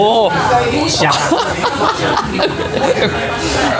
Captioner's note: laughs